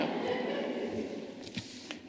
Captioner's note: laughter